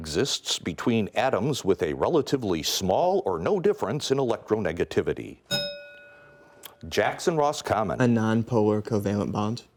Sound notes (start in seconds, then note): 5.5 bell rings